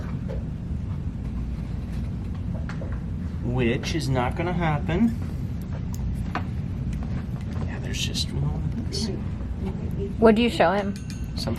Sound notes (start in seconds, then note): none